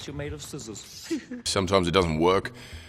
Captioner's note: Korg giggling